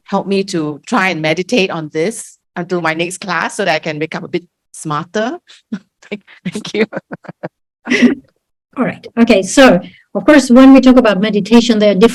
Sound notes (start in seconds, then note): 6.1 chuckles